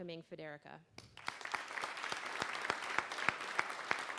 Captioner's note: applause